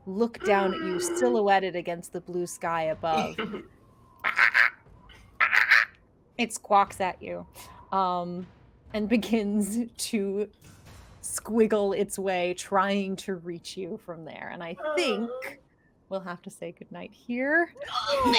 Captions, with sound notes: Look down at you silhouetted against the blue sky above. (bird squawks) It squawks at you. And begins to squiggle its way trying to reach you from there. And I think we'll have to say goodnight here.